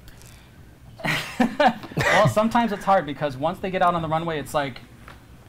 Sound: laughs

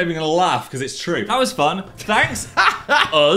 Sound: Dan laughing

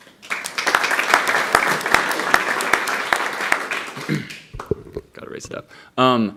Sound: applause

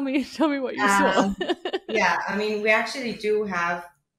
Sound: chuckles

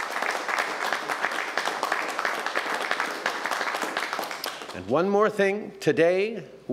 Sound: applause

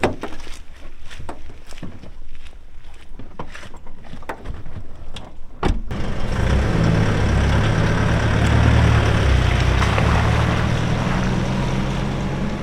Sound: sound of a car engine

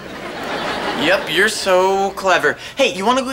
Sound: scoffs

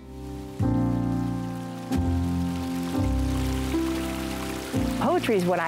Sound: sound of a stream

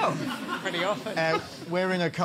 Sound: laughter

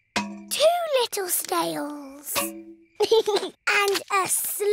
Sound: george giggles

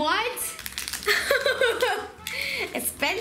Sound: laughing

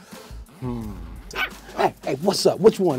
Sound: puppies yapping

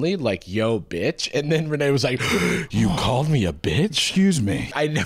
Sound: gasps

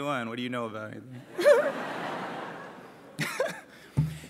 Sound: laughs

